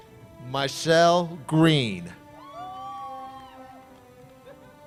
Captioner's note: cheers